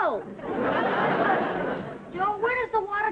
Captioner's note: audience laughing